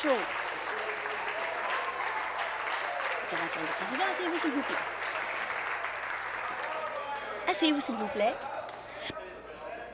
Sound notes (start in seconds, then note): 5.1 applause